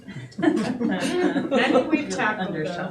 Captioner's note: audience laughing